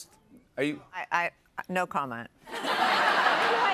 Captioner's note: laughter